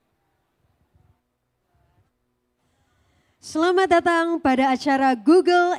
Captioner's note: speaking indonesian